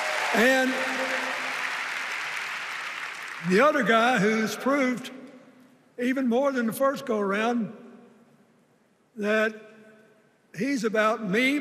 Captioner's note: cheers and applause